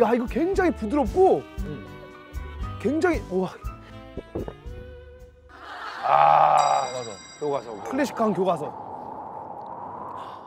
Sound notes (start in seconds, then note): 4.3 mouth watering